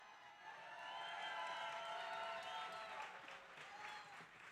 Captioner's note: audience cheering